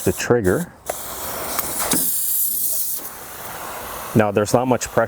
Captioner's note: pressure washer hissing